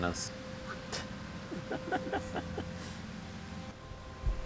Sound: men laugh

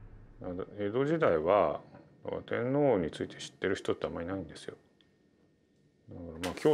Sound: speaking in foreign language

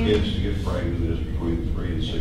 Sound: voiceover

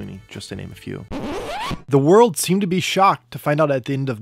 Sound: harsh Sound of Record Stopping/Scratch!

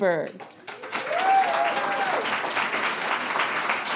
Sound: audience applauds

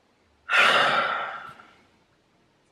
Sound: sighs

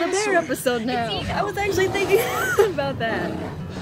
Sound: wheeze

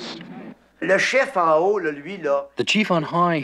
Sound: speaking in foreign language

